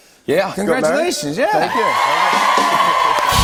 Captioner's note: cheers and applause